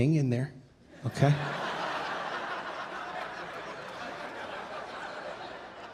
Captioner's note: audience laughing